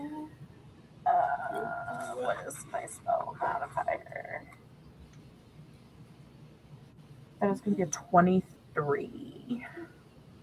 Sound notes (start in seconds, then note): 2.3 quietly